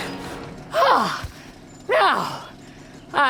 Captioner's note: panting